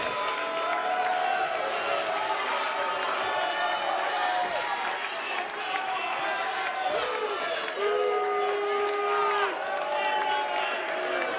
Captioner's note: cheers and applause